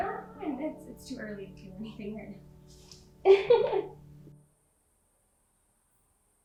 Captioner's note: laughing